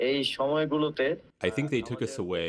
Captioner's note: through translator